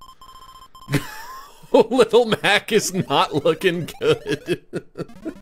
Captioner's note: laughing